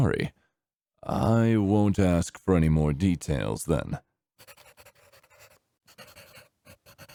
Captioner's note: pencil scribbling